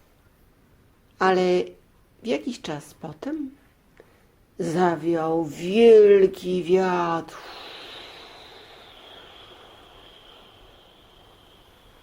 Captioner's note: wind blowing